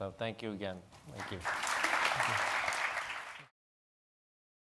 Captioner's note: audience clapping